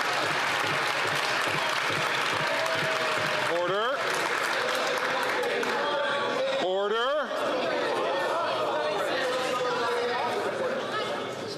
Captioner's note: some Applause